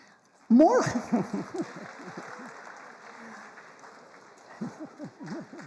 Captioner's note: laughing